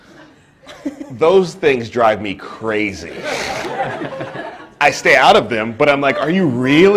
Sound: pause, quiet audience laughter; laughter

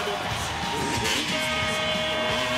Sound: buzzer

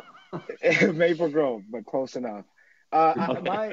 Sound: chuckling

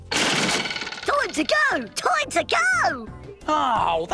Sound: none

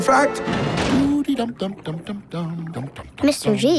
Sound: humming

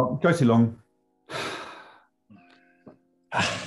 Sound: sighs; exhales

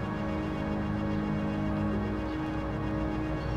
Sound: birdsong

